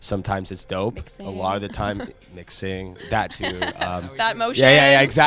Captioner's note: laughter